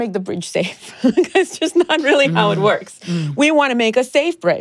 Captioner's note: laughs